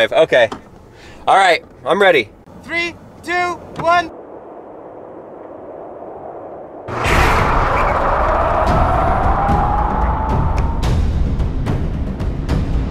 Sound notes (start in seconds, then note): 6.8 intense music; 6.9 tires squealing